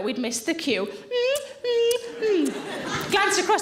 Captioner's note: lips smacking